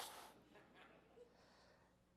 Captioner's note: audience laughs